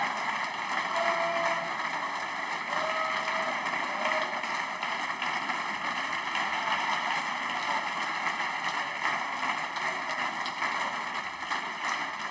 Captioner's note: applause